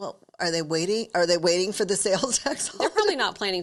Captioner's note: chuckles